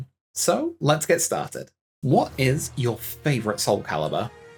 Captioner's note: none